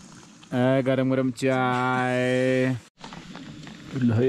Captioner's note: mimicking hawkers